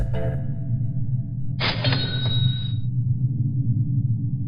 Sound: cash register effect

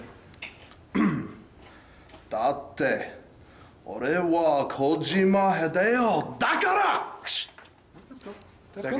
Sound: clears throat

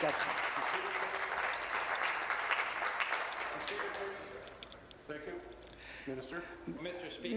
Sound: applause

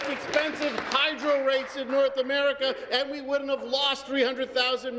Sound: some Applause

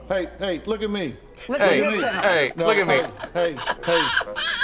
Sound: laughs

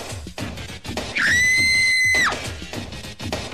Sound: party whistle; woman screaming

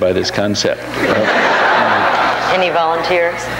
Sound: audience laughs

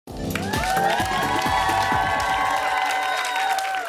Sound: cheers and applause

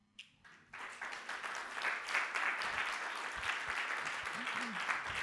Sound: audience clapping

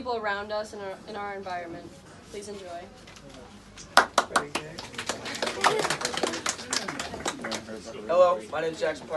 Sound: applause

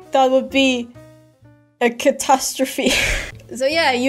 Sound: painful laugh

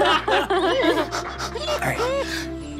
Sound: laughing; panting

